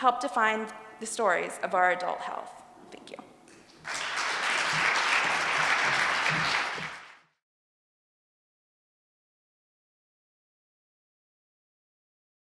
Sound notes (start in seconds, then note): 3.8 applause